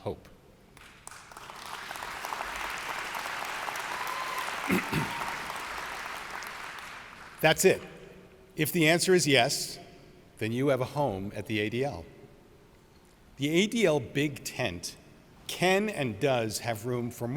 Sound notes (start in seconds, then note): 0.8 audience applauds